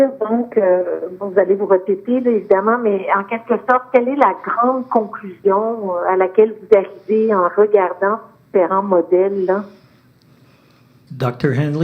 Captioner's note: speaking French